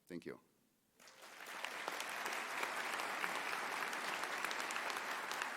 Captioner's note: audience applauding